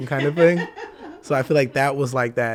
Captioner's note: hosts laugh